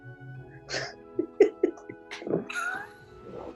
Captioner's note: giggling